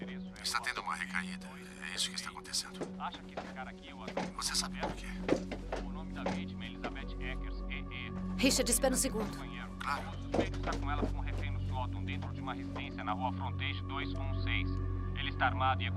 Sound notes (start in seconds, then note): 2.5 man on Radio; 6.2 man on Radio; 11.3 man On Radio